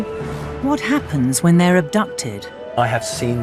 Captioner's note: voiceover